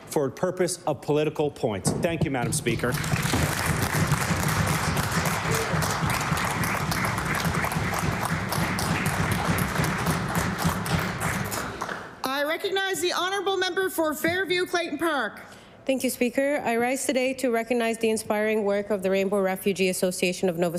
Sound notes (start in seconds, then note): 6.5 applause